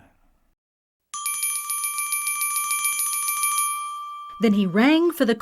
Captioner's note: bell rings